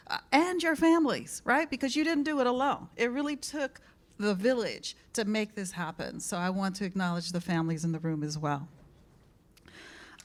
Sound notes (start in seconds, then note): none